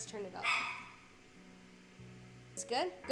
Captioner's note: dog Barking